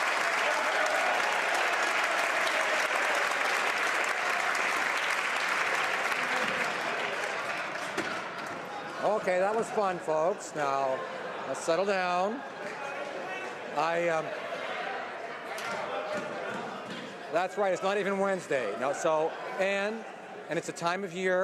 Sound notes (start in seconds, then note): 2.4 some Applause